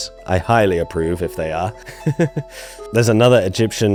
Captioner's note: laughs